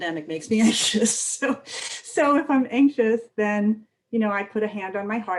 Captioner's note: laughter